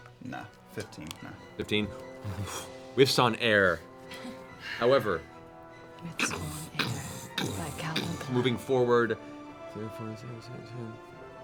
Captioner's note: heavy footfalls